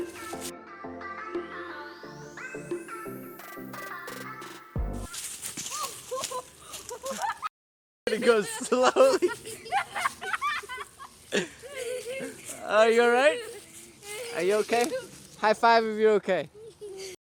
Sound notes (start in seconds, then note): 5.0 music stops; 5.0 leaves crunching; 8.1 laughing; 10.9 laughter